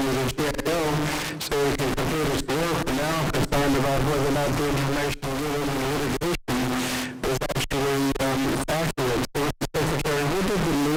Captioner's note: static